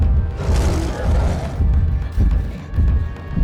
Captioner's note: roaring